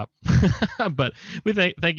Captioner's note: laughs